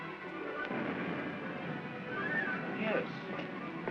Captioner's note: explosions in distance